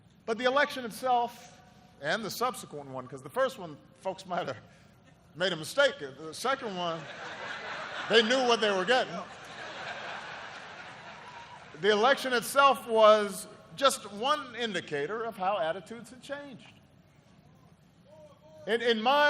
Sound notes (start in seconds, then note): 6.8 laughter